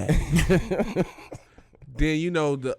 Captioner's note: Darius and Quentin laughing